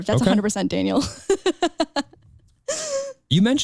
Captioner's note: chuckles